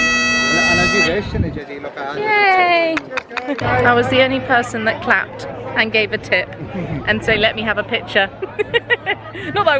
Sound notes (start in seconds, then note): 2.6 clapping; 8.4 giggling